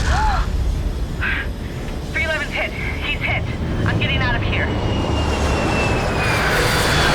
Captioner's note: explosion; zap; gasp